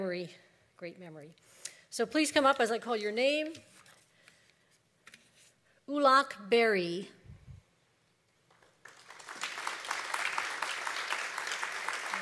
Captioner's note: applause